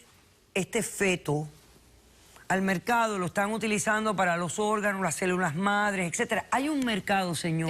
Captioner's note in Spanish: none